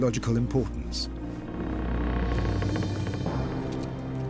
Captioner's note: doors creaking